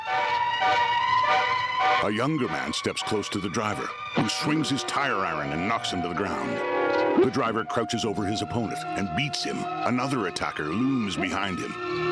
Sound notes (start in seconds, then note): 4.2 groaning; 7.1 smacking